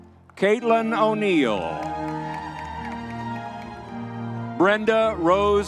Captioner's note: crowd cheering